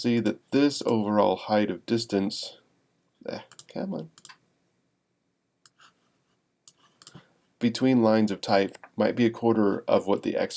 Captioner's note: mouse clicks